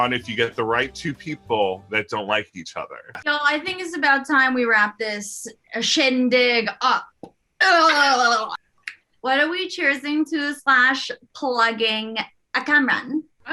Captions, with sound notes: if you get the right two people that don't like each other. - So, I think it's about time we wrapped this shindig up. (gurgling) (laughter) What are we cheersing to slash plugging... Cameron?